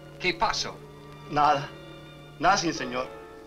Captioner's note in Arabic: ماريو يتحدث الاسبانية